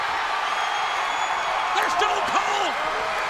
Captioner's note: audience cheering